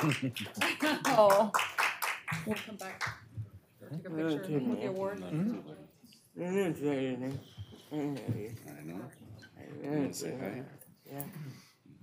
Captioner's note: applause